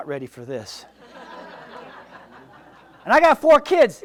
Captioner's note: audience laughs